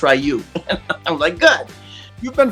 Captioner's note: laughs